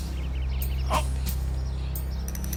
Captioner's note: groans